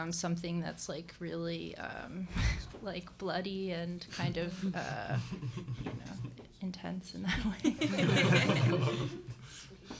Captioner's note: laughter